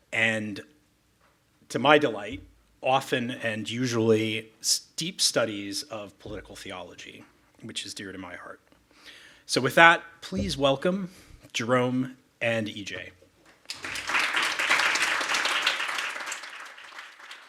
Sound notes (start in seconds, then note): 13.6 audience applauding